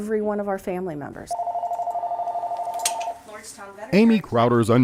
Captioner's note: phone ringing